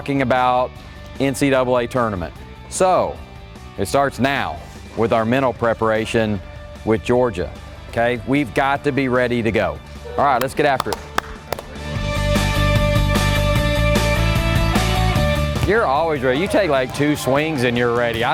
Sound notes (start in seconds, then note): 10.3 hands clapping; 11.8 energetic rock music